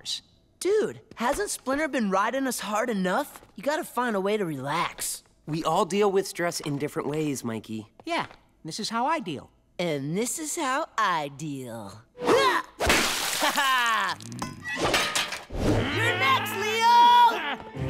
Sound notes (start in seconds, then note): 14.6 growls